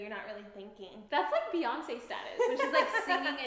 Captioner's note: laughing